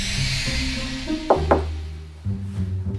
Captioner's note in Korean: 똑똑